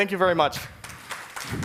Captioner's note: applause